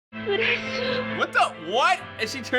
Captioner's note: woman speaking Japanese